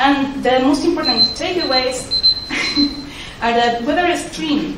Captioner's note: timer goes off